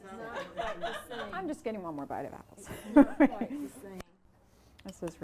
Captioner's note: laughs; laughs